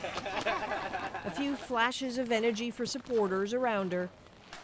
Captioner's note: laughter